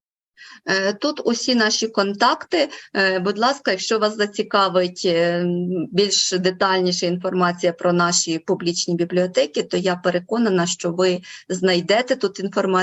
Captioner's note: foreign Language Spoken